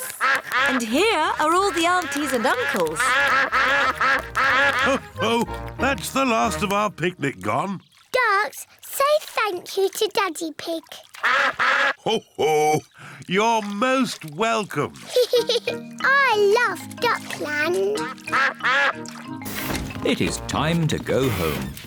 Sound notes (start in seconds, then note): 11.2 all quack; 15.0 giggles